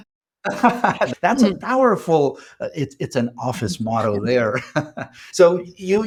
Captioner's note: chuckles; laughs